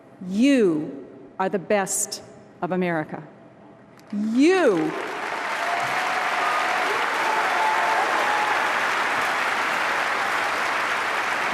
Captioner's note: applause